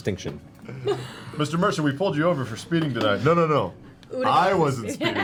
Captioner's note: different voice